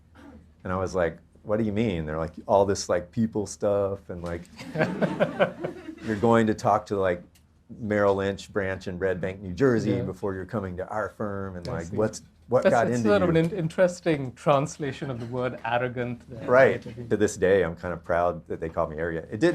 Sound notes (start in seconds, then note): 4.6 audience laughter